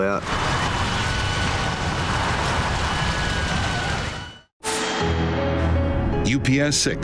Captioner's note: flames roaring; sirens blaring